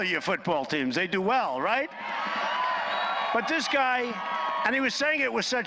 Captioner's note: applause